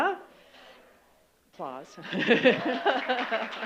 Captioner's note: applause